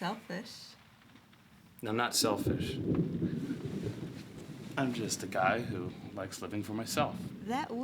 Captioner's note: wind Howling